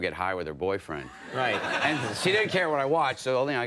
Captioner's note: audience laughing